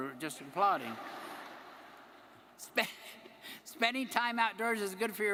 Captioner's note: audience laughing